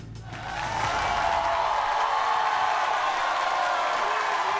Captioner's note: audience cheering